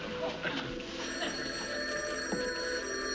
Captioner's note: phone rings